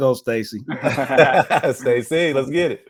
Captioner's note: group laughs